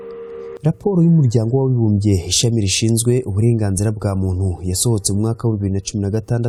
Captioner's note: speaking in Kinyarwanda